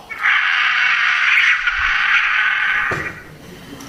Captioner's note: bird screeching